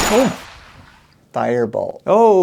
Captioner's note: kapow